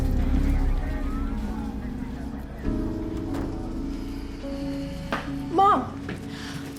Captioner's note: police sirens blaring